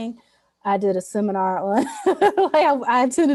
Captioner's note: laughs